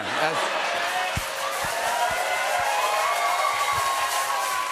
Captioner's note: cheers and applause